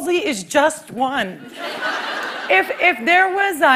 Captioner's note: laughter